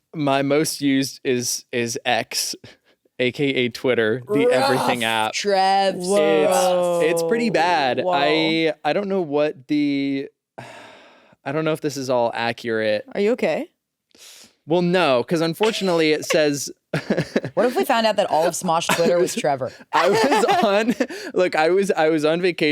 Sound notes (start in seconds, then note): 15.6 laughs